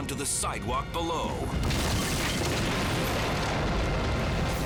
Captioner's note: fire roaring